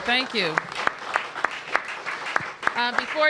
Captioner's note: applause